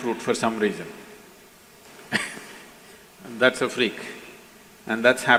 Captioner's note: laughs